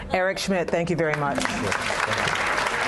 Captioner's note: applause